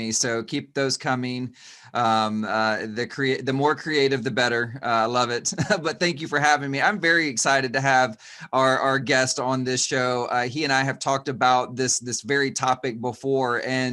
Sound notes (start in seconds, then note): 5.4 chuckles